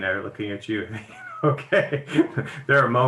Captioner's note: laughs